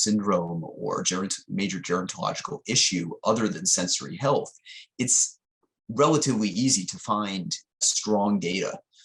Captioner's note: distortion